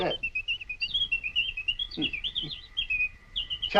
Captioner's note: bird chirping